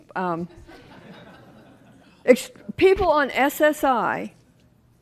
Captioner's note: laughter